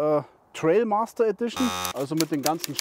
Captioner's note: buzzer